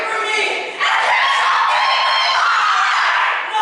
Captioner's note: shrieking